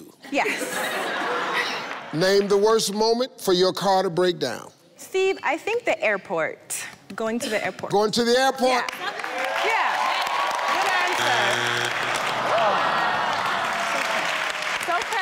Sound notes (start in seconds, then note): 0.4 audience laughing; 8.8 audience applauding; 10.8 buzzer buzzes; 11.8 audience applauds